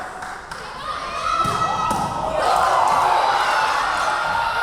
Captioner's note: yelling